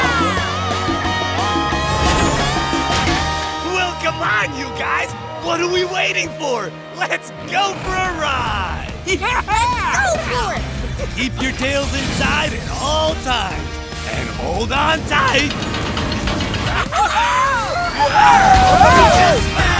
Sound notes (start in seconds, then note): 16.4 laughing; 16.7 cheering